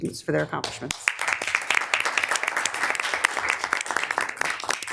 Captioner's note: attendees clapping